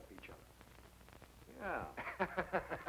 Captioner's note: chuckling